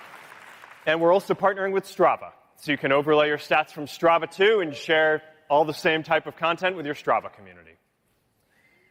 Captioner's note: applause